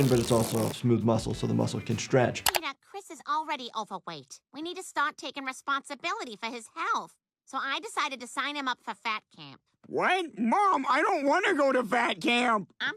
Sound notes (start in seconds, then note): none